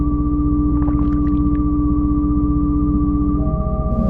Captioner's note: liquid spills